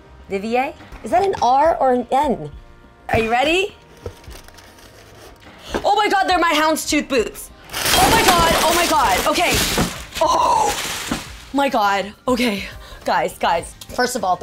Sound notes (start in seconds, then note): none